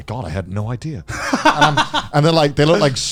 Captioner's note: laughs